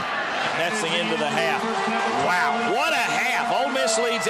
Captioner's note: voiceover